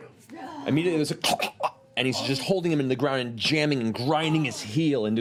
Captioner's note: choking